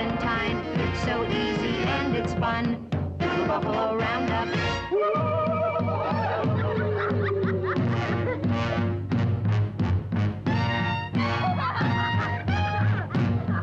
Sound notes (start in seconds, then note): 4.7 war hoots/drums beat; 7.0 children laugh